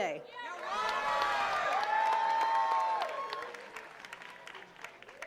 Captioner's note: attendees cheering and clapping